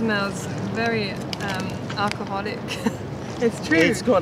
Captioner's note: laughter